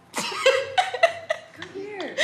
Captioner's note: laughs